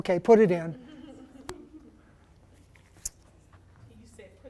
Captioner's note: laughter; voiceover